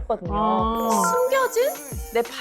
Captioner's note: fateful sound effect